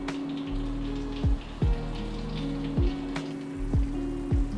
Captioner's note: butter sizzling